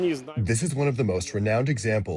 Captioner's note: through translator